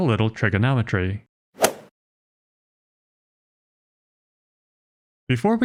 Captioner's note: golf ball hit sound effect